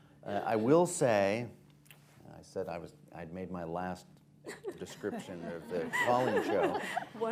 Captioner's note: laughter